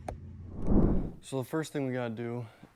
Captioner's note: screen whooshing